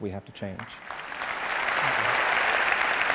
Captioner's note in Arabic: تصفيق